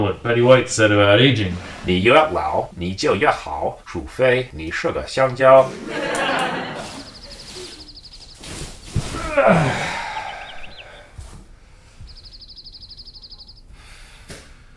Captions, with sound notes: what Betty White said about aging. (speaks Chinese) (audience laughing) (bird chirping)